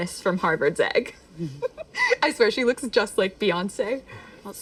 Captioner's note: laughs